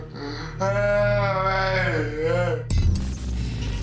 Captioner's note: moaning